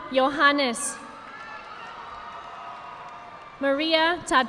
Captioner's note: audience applauding